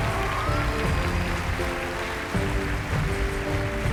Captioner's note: cheers and applause